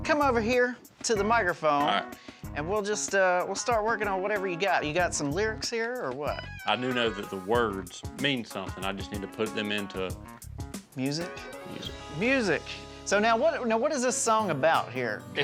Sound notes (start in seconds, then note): none